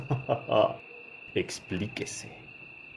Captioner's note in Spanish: risa malvada